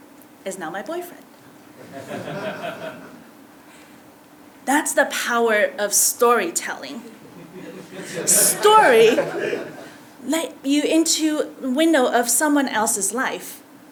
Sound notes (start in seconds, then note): 1.3 laugh